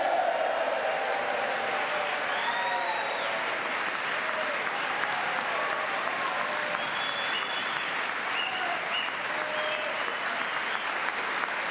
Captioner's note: cheering